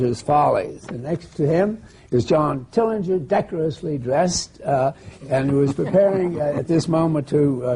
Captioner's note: laughter